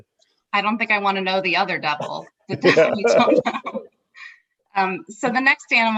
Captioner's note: laughing